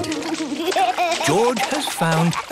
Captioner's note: giggling